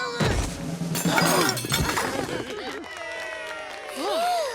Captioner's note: applause